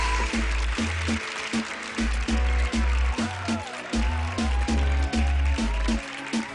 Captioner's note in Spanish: Aplausos; Exclamaciones